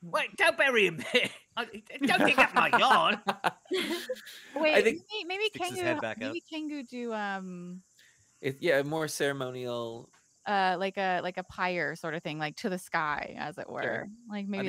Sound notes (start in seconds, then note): 3.8 laughing; 5.4 laughs